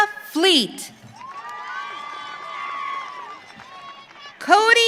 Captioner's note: audience cheering